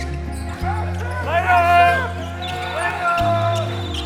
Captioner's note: cheering